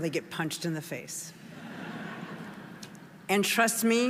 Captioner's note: audience laughing